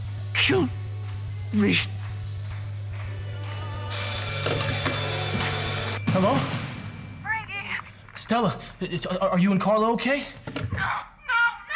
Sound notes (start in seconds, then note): 3.9 ringing